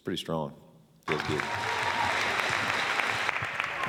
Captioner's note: cheers/applause